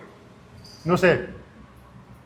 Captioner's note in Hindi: स्पेनिश में बोलना